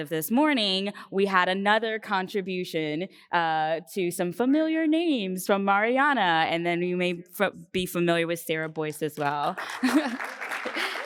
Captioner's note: applause